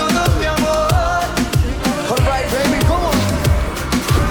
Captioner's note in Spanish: en inglés